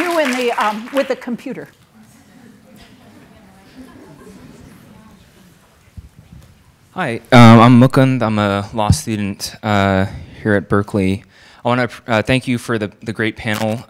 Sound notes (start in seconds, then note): 1.8 audience murmuring